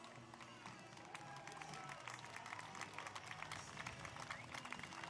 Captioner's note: applause